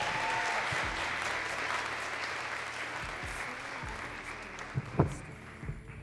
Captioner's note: audience cheering and clapping